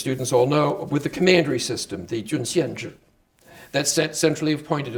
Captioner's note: speaking Chinese